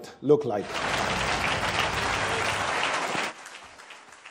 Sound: audience applauds

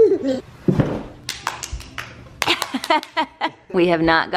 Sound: clapping

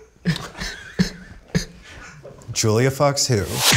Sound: laugh

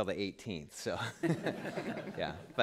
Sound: laughter

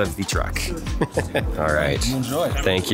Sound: presenter laughs

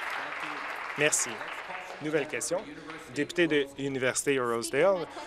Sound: applause

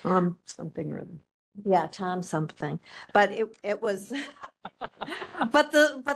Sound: laughing

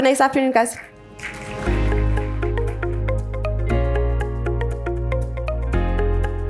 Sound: soft upbeat music; audience applauds

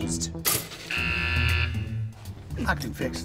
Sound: alarm buzzes

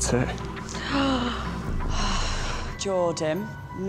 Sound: dramatic sigh

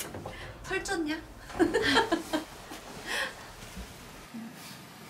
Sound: laughing

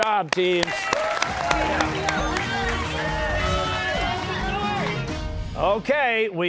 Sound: cheers and applause

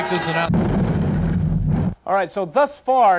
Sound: exploding

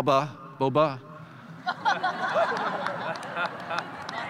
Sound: audience laughs

